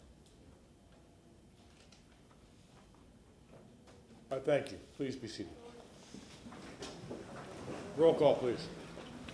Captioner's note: moment of silence